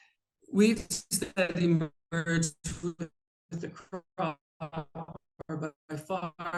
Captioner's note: audio stuttering